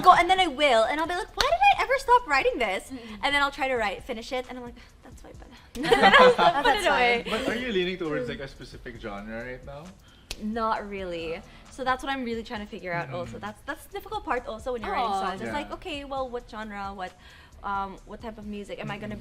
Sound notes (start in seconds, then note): 5.8 chuckles